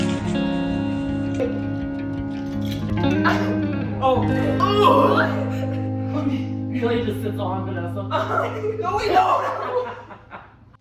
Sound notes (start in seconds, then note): 3.0 laughter and grumbling; 8.1 laughter